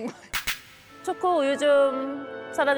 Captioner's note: sound effect: turns full-on theatrical